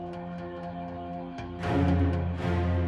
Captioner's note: none